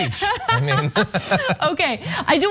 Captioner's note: laugh